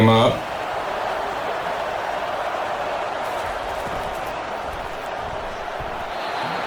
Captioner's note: crowd cheering